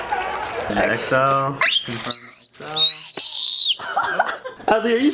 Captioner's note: squealing; everyone laughing